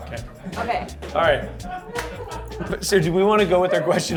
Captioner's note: crew laughs